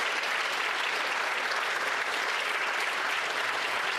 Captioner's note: applause